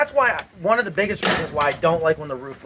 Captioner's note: door slamming